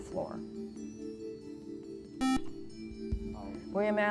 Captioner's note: buzzer